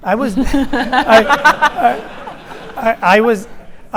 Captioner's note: audience laughing